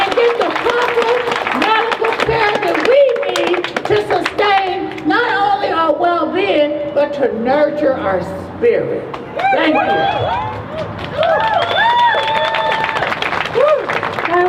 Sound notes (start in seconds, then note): 9.3 crowd cheers